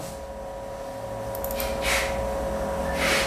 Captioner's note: clicking sound